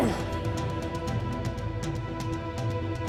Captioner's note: grunts